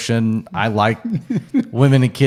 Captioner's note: laughing